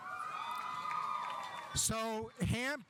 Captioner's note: audience applauding; audience cheering